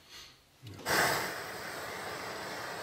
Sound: hissing

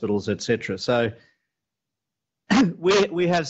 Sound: clears throat

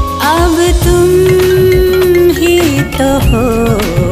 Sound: cell phone ringing

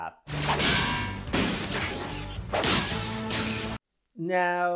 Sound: punching Sound

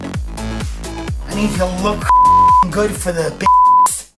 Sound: beep

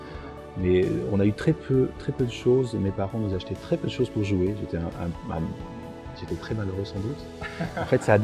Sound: laughs

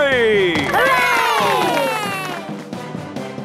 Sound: heroic music; applause

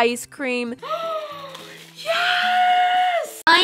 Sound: sounds of pure joy

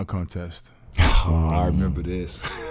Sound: laughing

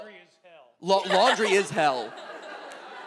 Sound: audience laughs

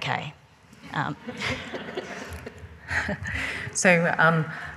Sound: laughing

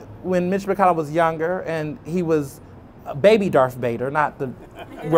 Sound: laughter

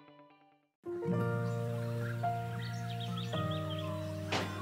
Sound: birds chirping

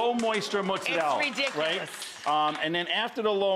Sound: audience applauding

